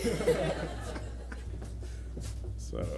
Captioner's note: laughter